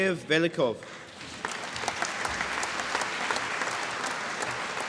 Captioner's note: applause